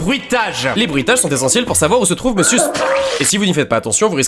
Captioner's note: very safe suit sound effect